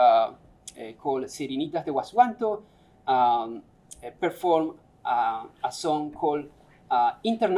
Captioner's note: non-english speech